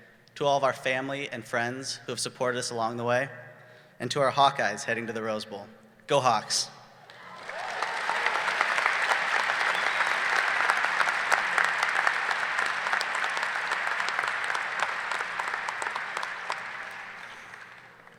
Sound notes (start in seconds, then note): 7.4 audience cheering